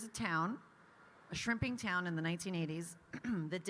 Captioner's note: clears throat